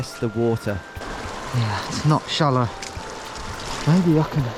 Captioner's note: feet splashing